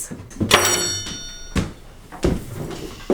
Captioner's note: knife clangs on table